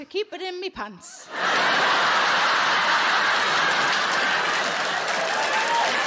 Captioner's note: audience laughing and applauding